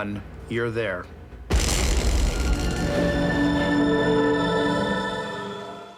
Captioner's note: explosion